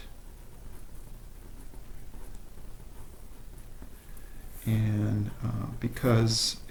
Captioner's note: drawing on Paper